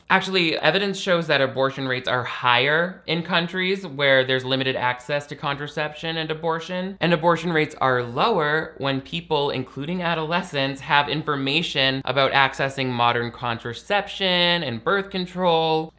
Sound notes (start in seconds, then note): none